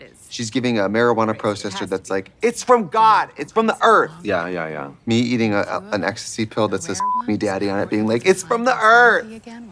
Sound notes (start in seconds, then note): 7.0 beep